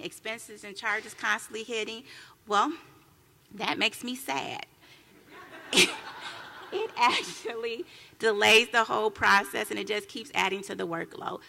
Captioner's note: laughter